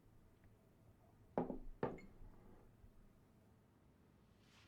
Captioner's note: glasses thump